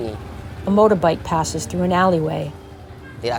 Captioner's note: motorbike engine rumbles